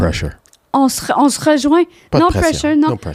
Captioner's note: in french